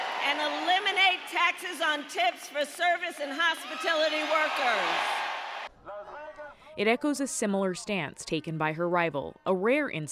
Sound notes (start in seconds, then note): 6.6 applause; 6.6 cheering